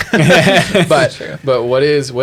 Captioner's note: laughter